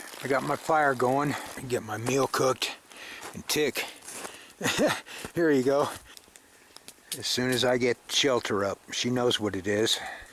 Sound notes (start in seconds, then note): 4.6 chuckles